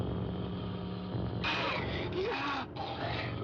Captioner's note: growling